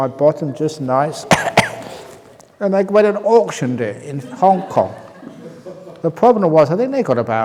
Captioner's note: laughs